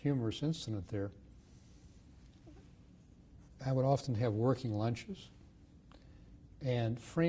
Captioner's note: pauses for 3 seconds